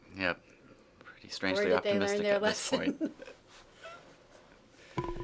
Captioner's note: laughs